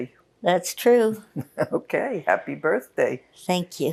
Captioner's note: laughing